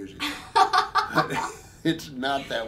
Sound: both laughing

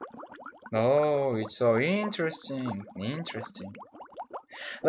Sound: Sarcastic

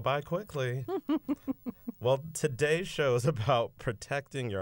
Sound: laughter

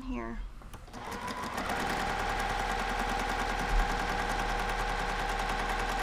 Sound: sewing machine humming

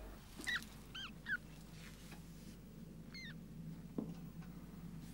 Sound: squeaking

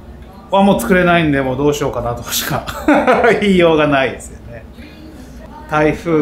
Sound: laughs

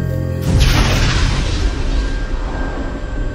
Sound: explosion

